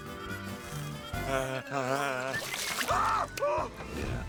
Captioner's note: buzzing; screams